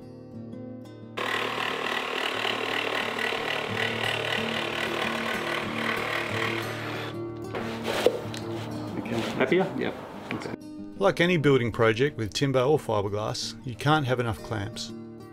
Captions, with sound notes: (saw whirring) - Happier. - Yep. Like any building project with timber or fiberglass you can't have enough clamps.